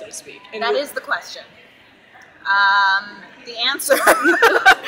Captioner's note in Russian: смех